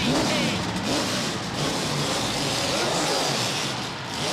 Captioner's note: crowd cheering